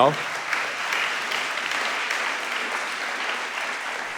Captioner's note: audience applauding